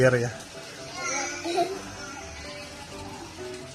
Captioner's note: my daughter's laughing